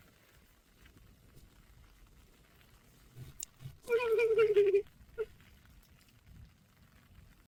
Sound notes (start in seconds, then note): 3.3 laughs